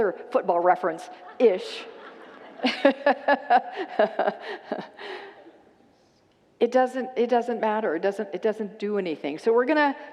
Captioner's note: congregants laugh